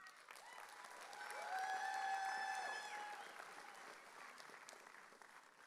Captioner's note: audience cheering